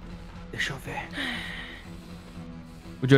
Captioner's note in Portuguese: sussurrando